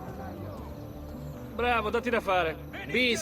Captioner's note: sarcastic, to Ezio